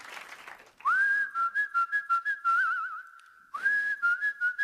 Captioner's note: cheers and applause; whistling to the tune